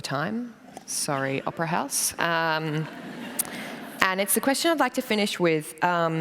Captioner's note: laughter